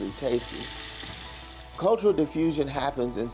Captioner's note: food frying